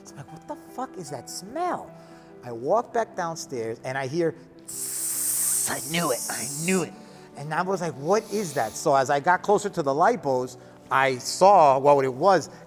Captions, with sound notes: I was like, what the fuck is that smell? I walk back downstairs and I hear, (imitates sizzling) I knew it, I knew it. And I was like, what is that? So as I got closer to the lipos, I saw what it was